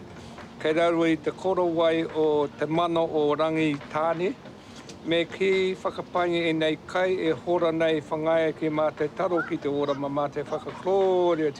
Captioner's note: speaks te reo maori